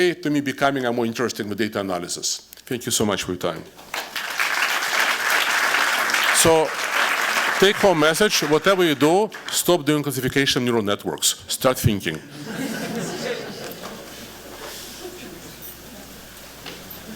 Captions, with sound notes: to me, becoming more interesting with data analysis. Thank you so much for your time. [applause] So take home message, whatever you do, stop doing classification neural networks. Start thinking. [audience laughing]